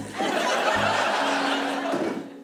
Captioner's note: laughter